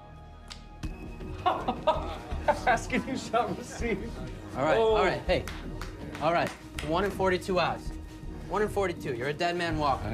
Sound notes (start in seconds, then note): 3.9 laughs; 5.3 Ruzek claps